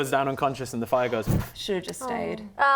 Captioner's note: poof